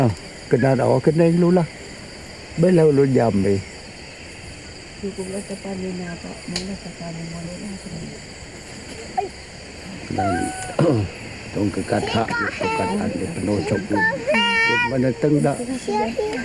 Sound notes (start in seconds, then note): 5.5 woman speaking in foreign language; 10.4 speaking in foreign language